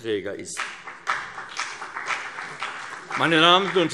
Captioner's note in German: Vereinzelter Beifall CDU und BÜNDNIS 90/DIE GRÜNEN